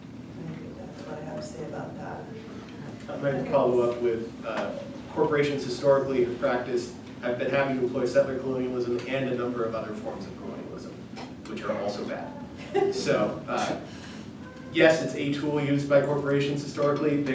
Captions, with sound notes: I think that's what I have to say about that. I'm going to follow up with corporations historically have practiced having employed settler colonialism and a number of other forms of colonialism, which are also bad. [LAUGHTER] So yes, it's a tool used by corporations, historically.